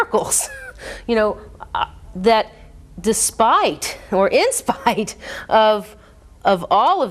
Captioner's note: laughs